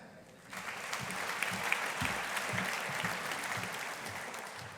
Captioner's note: audience applauding